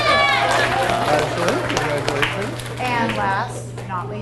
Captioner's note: audience cheers and applauds; audience applauds